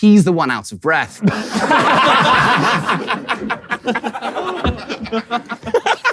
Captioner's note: people in room laughing